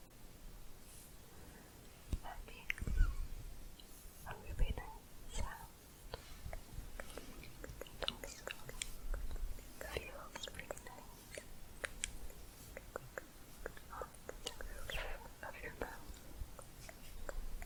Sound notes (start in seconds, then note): 12.6 tongue clicking